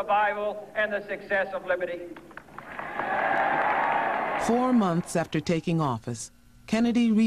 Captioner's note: applause